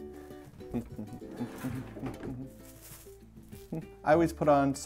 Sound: humming; rice shaking

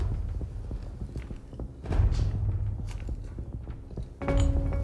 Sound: none

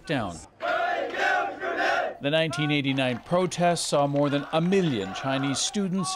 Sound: chanting

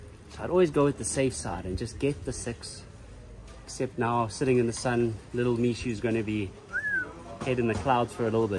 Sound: whistling

